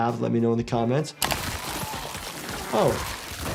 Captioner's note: body tearing